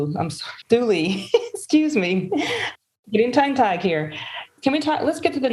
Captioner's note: laughs